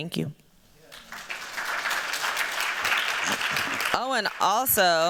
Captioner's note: applause